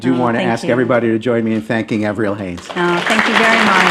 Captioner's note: applause